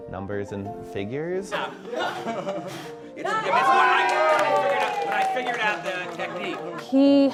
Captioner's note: laughter, cheering